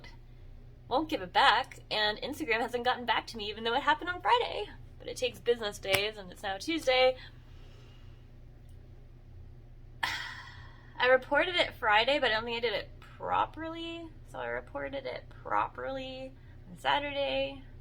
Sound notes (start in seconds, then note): 10.0 sigh